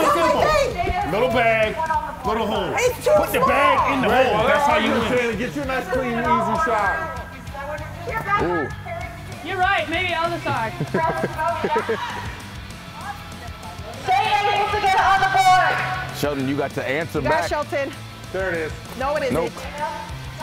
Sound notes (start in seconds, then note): 10.4 laugh